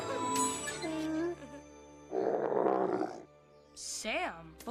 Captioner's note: moose grunts